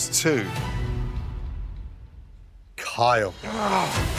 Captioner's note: sighs